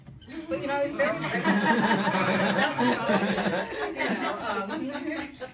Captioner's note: people laugh